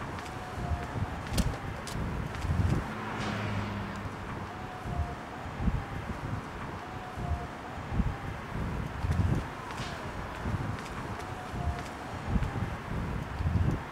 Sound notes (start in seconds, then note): 1.2 door click